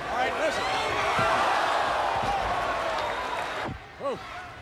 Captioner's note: audience gasping